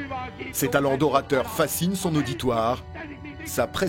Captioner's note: German spoken audio